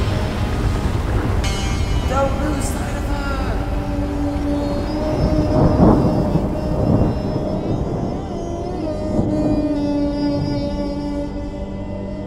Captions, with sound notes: Don't lose sight of her! [Thunder rumbling] [Dramatic tense music]